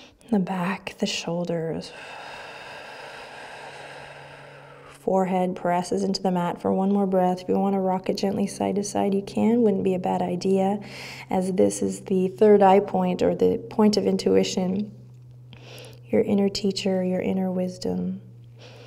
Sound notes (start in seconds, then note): 0.0 deep breath; 1.8 outward breath; 18.5 breaths